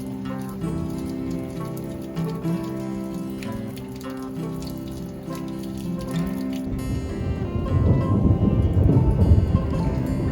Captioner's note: sounds of rain and thunder